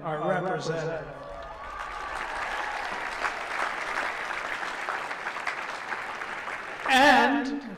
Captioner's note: applause